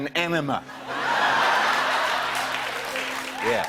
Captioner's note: laughter